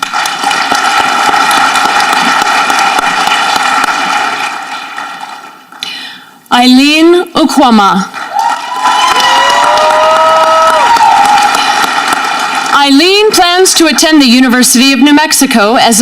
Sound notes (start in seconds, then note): 0.0 audience clapping; 8.2 audience cheering